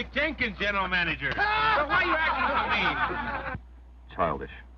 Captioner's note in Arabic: يضحك الجميع